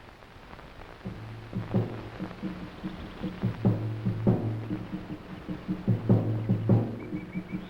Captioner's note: wild animals chattering